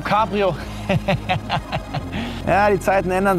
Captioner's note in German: lacht